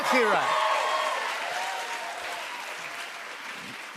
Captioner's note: cheers and applause